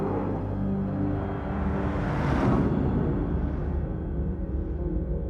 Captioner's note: logo whooshes